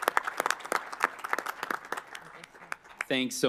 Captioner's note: applause